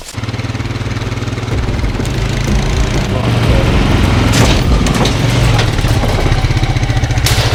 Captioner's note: low ATV exhaust note pulling heavy cargo